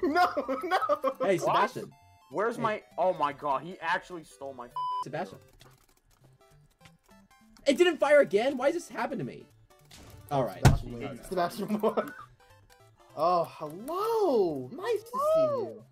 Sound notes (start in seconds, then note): 10.6 table Slam; 11.5 laughs